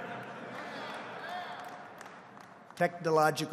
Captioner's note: laughter